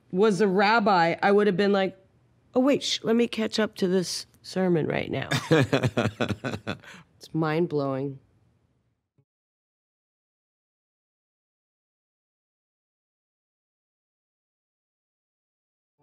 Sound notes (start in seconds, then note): 5.3 he laughs